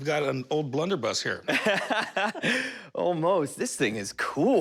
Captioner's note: laughs